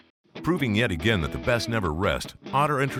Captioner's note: voiceover